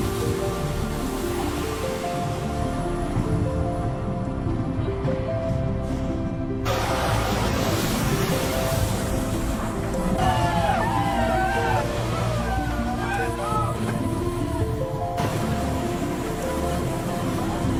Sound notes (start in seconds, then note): 0.1 bright ethereal music; 0.1 water splashing; 10.1 people shouting; 14.4 bright ethereal music